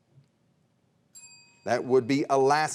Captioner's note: bell chimes